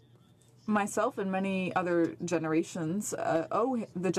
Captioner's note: speaking French